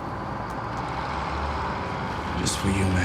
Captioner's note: traffic roaring